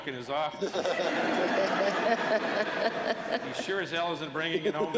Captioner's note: laughter